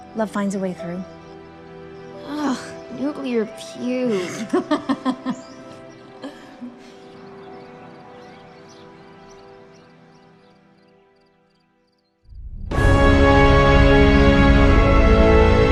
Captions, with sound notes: love finds a way through. - Ugh, nuclear puke. (Veronica laughs) (somber piano music) (tense music)